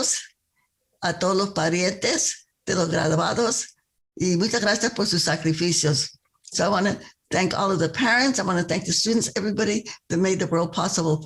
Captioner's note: speaking spanish